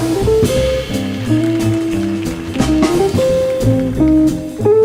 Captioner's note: audience applauding; jazz music continues